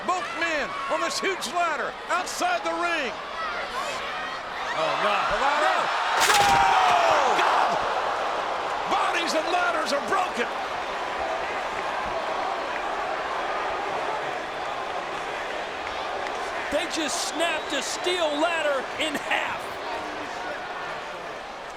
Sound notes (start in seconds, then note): 6.2 bodies thud; 11.3 audience chattering